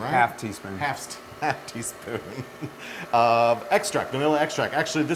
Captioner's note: laugh